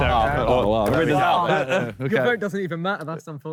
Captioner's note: Sidemen groan